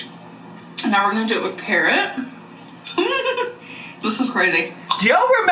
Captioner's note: laughs